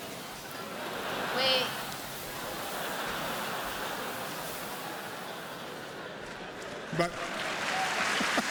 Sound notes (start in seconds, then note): 0.6 laughter; 7.5 laughter and applause